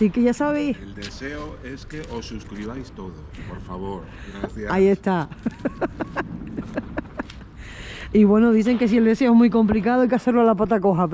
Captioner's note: laughs